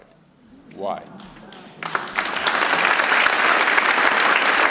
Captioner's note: audience applauds